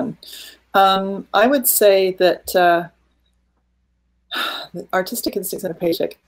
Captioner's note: sighing